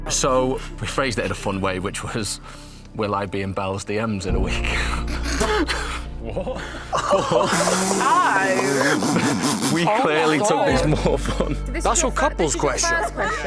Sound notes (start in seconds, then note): 4.6 laughs